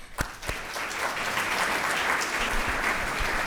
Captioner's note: crowd applauds